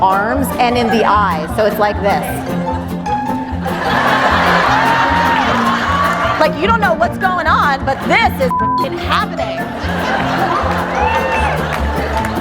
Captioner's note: beep